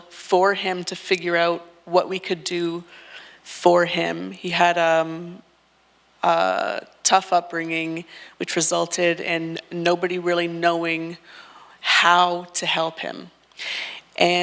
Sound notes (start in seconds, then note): none